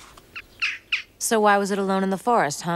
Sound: bird chirping

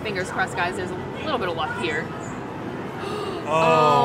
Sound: gasps

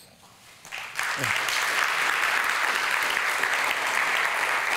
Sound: audience applauding

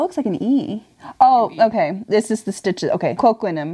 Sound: none

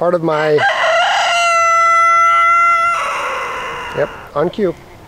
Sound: rooster crows

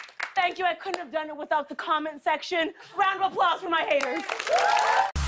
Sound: cheers and applause

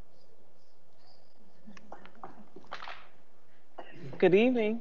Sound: laughing

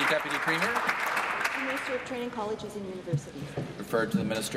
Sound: applause

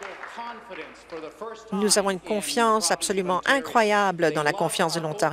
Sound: applause

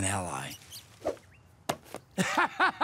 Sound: squeaking; whooshing; thudding; laughs

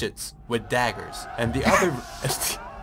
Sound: snickers

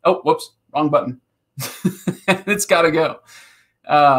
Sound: laughing

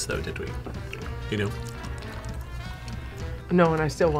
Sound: nibbles

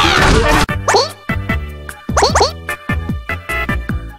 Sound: Goomba noises

